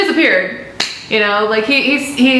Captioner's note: leg slap